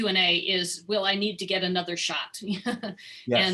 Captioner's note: laughter